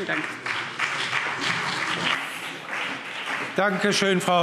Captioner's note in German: Beifall CDU und BÜNDNIS 90/DIE GRÜNEN